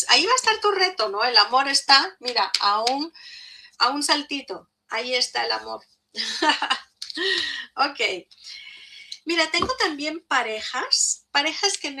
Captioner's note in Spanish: risas